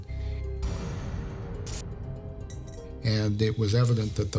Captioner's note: musical stinger; bullet clinking